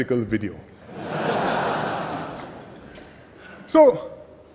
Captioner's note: laughter